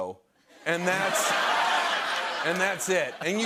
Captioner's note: laughter